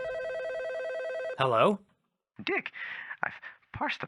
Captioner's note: phone ringing